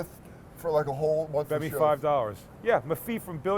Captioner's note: lisping